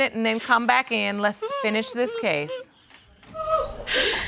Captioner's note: sobbing